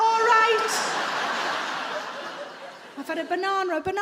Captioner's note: audience laughs